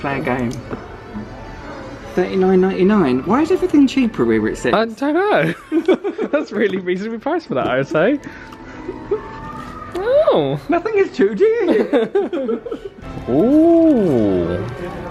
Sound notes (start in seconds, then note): 5.5 laughs; 11.6 both laugh